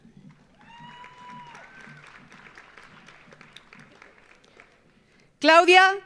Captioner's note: audience applauding; audience cheering